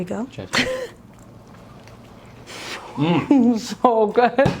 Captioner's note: laughing